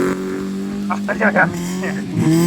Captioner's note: grunting; Subaru screams in pain